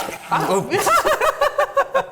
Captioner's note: blender gurgle; hearty laughter